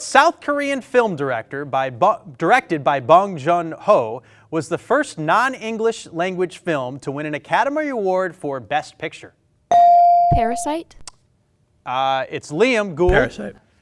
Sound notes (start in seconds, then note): 9.7 bell ring